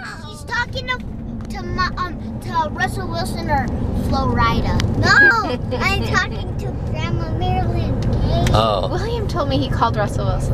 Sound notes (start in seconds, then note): 5.2 laughing